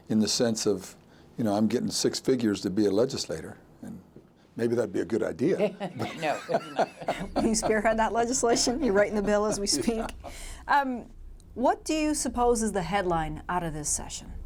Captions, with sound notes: in the sense of I'm getting six figures to be a legislator. And maybe that'd be a good idea. - No. (chuckling) - Are you scared of that legislation? You writing the Bill as we speak? What do you suppose is the headline out of this session?